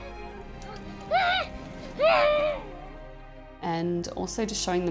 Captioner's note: child yelling